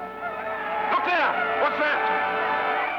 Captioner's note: natives shouting